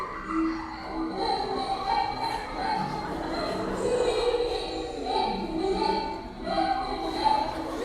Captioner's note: laughter